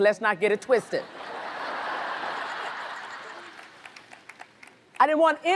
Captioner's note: audience laughs